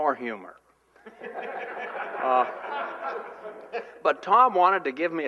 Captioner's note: laughter